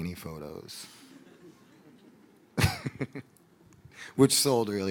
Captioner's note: audience laughing